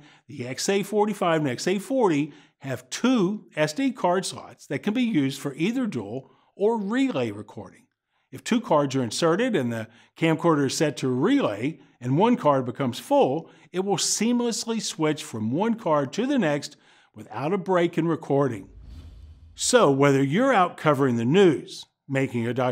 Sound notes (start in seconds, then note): 18.5 swoosh